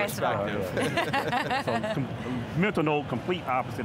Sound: laughing

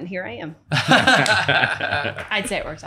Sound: laughing

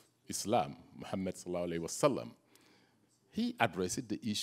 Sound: speaks in Arabic

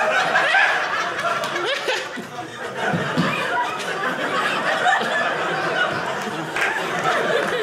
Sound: audience laughing

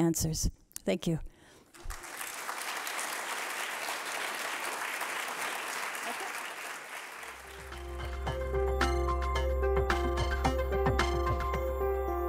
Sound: applause

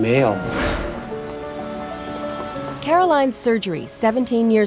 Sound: whoosh

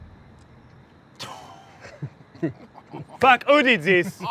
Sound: laughing

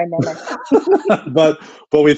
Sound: laughs

